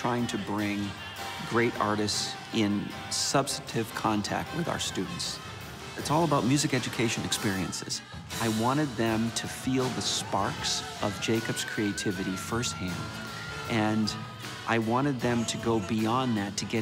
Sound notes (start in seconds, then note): none